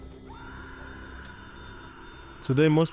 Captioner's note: person screams